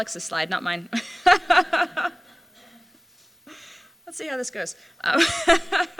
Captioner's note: laughter